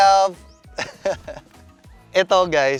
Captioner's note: chuckles